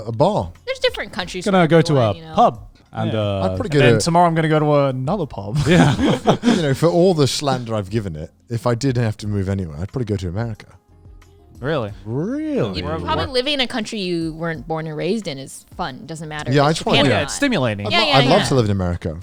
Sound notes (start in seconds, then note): 5.5 all laughing